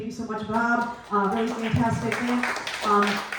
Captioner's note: clapping